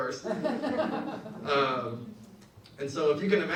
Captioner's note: audience laughs